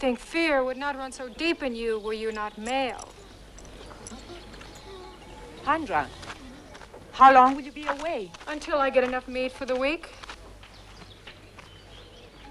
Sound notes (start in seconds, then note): 4.1 Beast whining